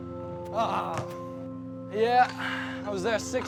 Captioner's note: grunts